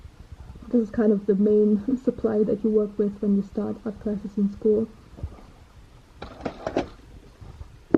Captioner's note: German